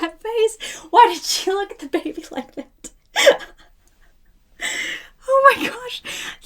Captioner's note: laughing